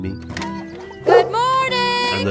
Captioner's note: dog door clicks; barks